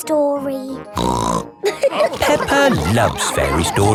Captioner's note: snorts; all laughing